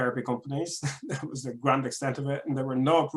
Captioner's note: chuckles